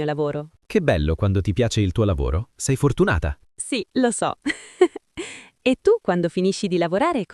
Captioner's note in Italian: risate